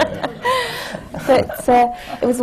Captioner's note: laughter